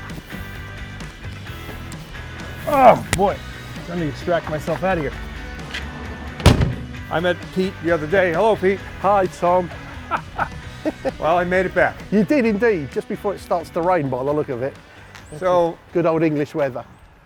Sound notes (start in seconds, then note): 0.2 upbeat music; 2.6 groan; 6.4 car door closing; 9.7 laughing